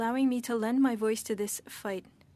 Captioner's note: speaking French